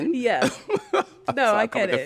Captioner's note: laughter